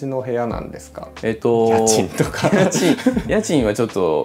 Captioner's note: laughs